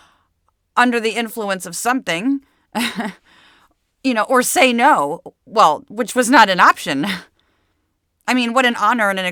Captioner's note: laugh